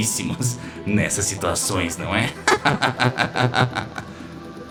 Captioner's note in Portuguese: risada maligna